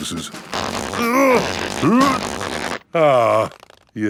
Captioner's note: grunting